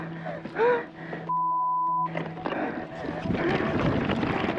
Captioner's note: breathes heavily; beeps